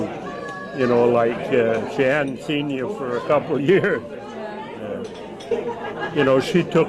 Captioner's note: laughs